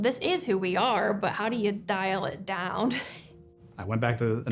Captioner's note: laughs